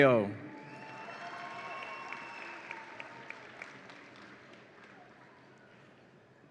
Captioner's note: audience applauds and cheers